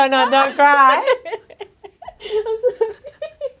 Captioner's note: laughing; laughing